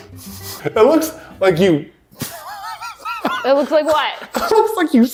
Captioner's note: laughing